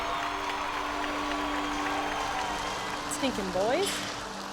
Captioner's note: cheers and applause